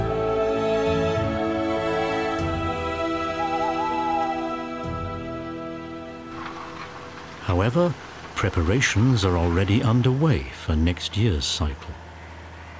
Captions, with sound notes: (owl hoots) However, preparations are already underway for next year's cycle.